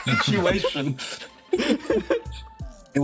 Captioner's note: laughs